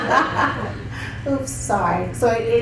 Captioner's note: chuckles